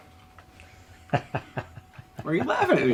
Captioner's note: laughing